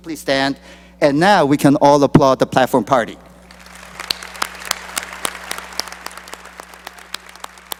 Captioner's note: applause